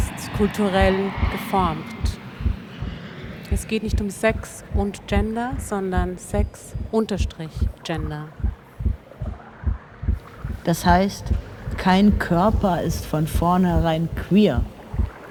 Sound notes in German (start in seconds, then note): 1.8 Flugzeuglärm; 8.7 herzschlag